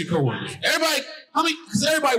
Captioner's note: stammers